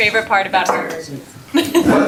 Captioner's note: laughter